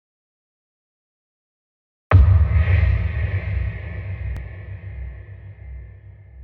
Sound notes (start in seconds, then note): 2.1 low booming sound